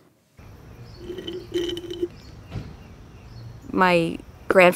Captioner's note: straw slurps